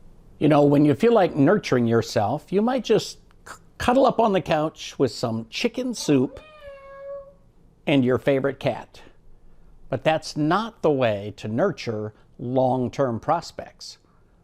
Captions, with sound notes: - You know, when you feel like nurturing yourself, you might just cuddle up on the couch with some chicken soup (cat meows) and your favorite cat, but that's not the way to nurture long-term prospects.